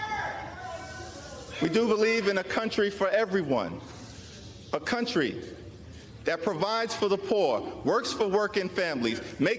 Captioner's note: crowd chanting